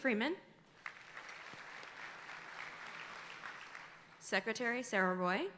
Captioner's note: audience applauding